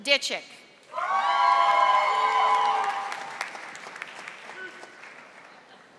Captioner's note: audience applauding